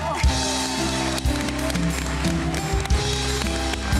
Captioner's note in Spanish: Ovación; Aplausos